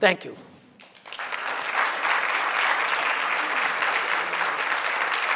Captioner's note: audience applauds